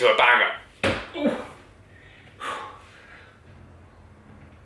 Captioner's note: breathing heavily